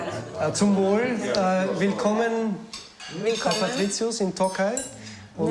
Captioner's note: speaking in foreign language